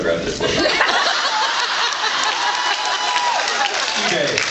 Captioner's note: laughs